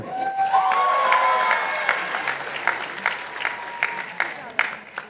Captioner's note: participants applauding